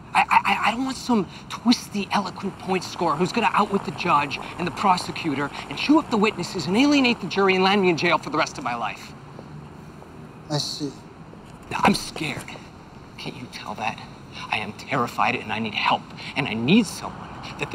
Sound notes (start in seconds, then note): none